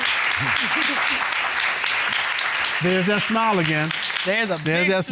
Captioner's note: applause